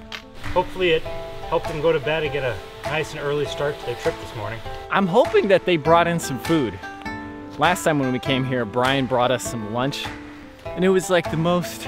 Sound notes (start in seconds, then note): none